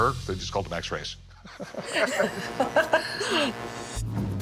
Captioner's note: laughter